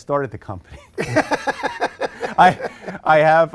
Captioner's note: laughter